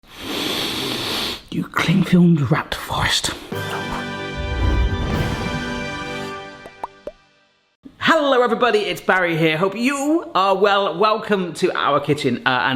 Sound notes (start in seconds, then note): 0.6 sniffs; 3.5 epic music